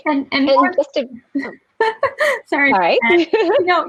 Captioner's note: laughing